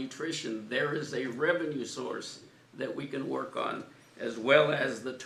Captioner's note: none